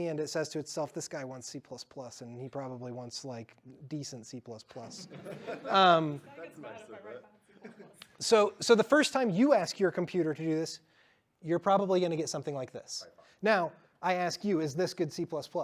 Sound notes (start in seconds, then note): 7.9 laughter